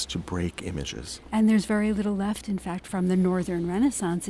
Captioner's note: voiceover